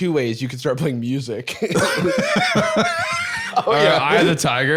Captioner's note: both laughing